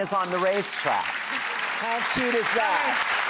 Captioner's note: audience applauds